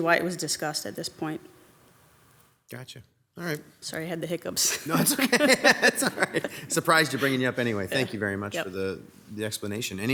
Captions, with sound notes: why it was discussed at this point. - Gotcha. All right. - Sorry I had the hiccups. - No, it's okay. (mayor and chief laughing) It's all right. Surprised you're bringing you up anyway. Thank you very much - Yup. - for the explanation.